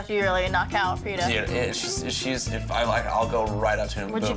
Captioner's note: stammers